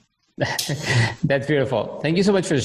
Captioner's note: laughing